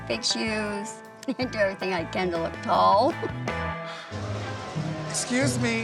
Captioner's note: laughs